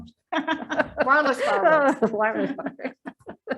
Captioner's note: laughs